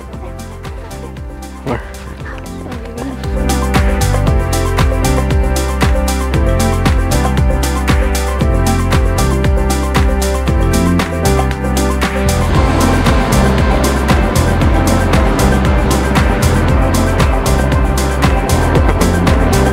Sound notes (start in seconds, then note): 3.3 enchanting music; 12.4 helicopter roaring